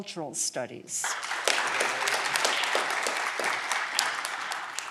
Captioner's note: audience clapping